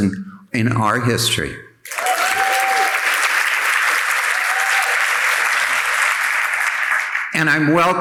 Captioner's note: audience applauding and cheering